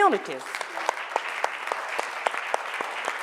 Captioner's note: applause